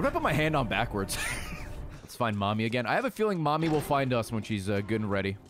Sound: laughs

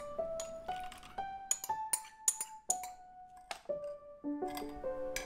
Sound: straining

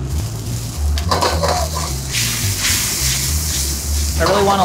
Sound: liquid sizzles

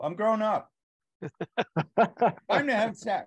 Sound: all laughs

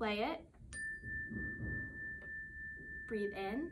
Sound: calming chime sound

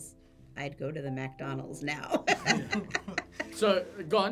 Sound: laughs

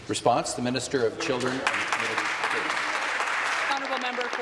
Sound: voice trailing

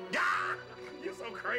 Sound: guffaws

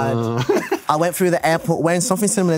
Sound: laughs

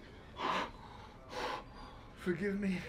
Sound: breathing heavily

